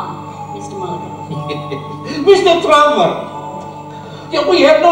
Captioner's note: laughing